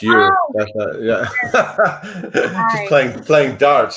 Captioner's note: laughs